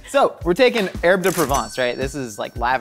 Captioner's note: cash register dings